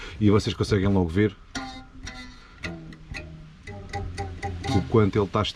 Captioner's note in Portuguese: som da vibração do arame esticado